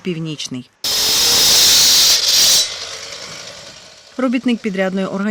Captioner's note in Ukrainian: працює техніка